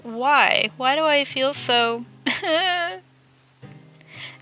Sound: sobs

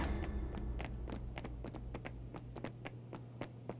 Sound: footsteps padding

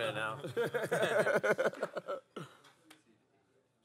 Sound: laugh

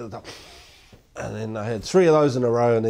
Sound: inhales sharply

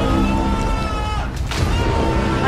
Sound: smack

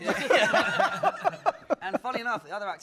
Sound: laughter

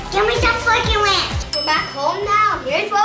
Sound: bell dings

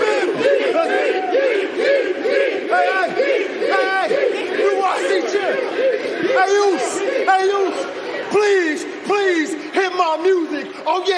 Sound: cheers and applause

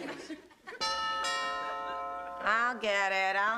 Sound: doorbell rings

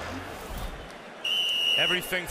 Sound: whistle blows

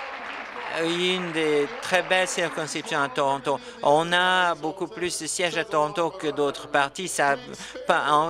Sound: applause

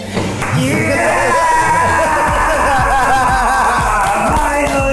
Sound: all laugh

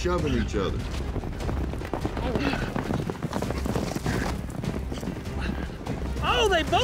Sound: galloping horses

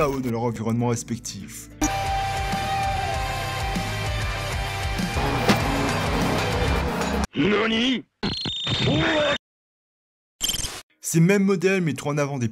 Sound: beep

